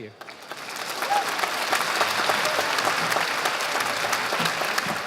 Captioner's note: audience applauding